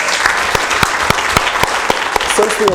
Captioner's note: applause